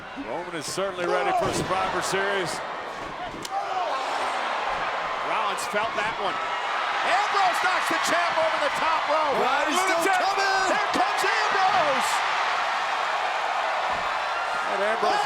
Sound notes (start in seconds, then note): 4.4 Seth yells; 4.4 crowd cheers; 12.2 crowd cheers